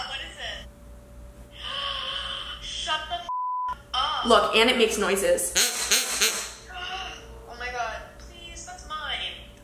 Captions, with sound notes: Look, and it makes noises. (quacking)